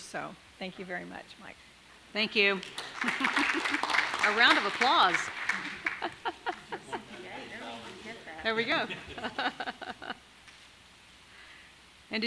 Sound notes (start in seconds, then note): 2.5 audience applauding; 8.4 laughing